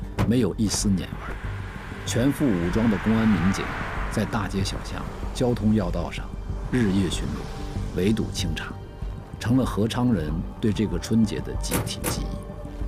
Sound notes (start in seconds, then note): 1.3 Traffic